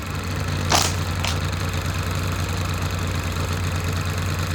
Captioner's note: film projector ticking; car engine rumbling